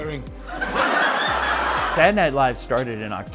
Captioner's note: audience laughing